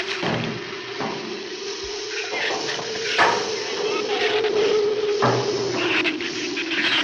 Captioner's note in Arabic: عواء الرياح; هسهسة اللهب